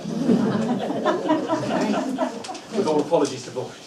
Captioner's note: laughter